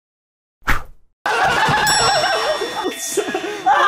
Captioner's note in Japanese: 笑い声